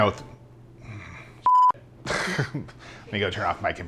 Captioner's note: beep